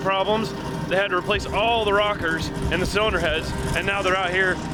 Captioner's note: car engine revving